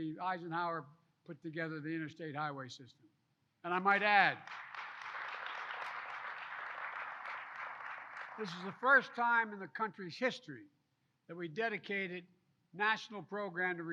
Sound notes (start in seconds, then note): 6.8 applause